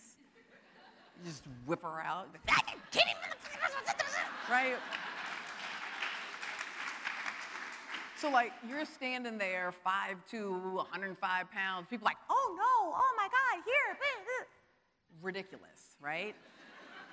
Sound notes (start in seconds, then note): 0.3 audience laughing; 4.5 audience applauding